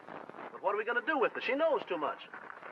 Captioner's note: none